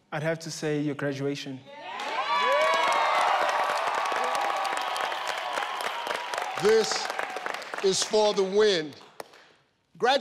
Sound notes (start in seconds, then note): 1.8 audience cheering